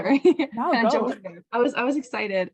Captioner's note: laughing